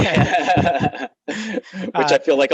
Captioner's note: laughs